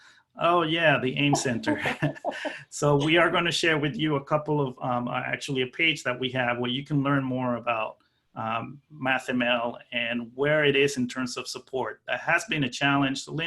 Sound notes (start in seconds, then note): 1.2 laughing